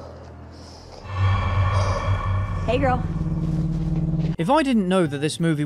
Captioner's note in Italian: Effetto sonoro horror